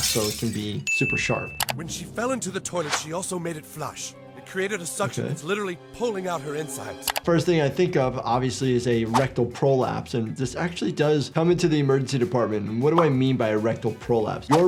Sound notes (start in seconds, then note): none